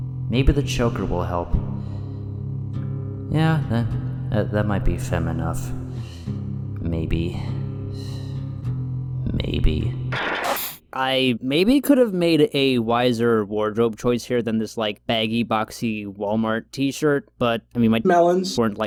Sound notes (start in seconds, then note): 5.9 inhales; 7.4 exhales; 10.1 static